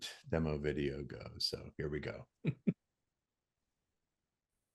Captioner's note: chuckles